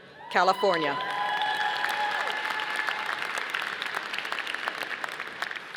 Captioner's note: audience applauding